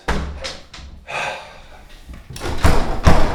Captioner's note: Manny sighs; manny yanks on door